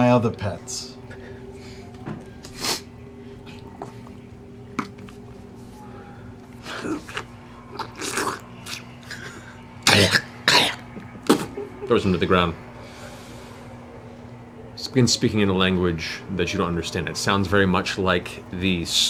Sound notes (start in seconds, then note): 6.3 slurping; 7.7 spitting